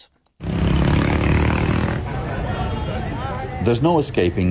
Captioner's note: engine roaring